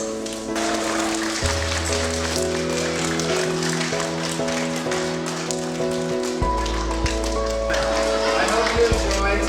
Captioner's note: applause